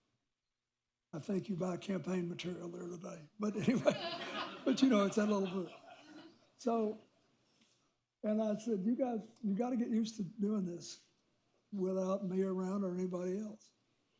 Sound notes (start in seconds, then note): 3.5 laughter